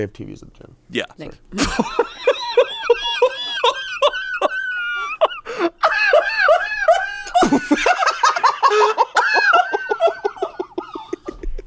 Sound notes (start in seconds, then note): 1.9 laughs; 8.0 laugh